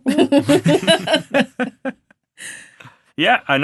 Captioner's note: all laughing